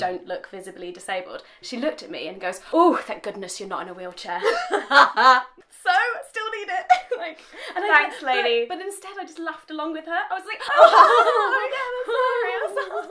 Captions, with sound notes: look physically disabled she looked at me and goes 'oh thank goodness you're not in a wheelchair' [both laugh] So? Still need it! Thanks lady... Instead I just laughed along with her like [both fake laugh]